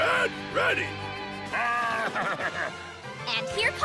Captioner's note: bleating